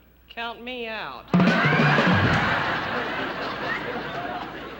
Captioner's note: laughter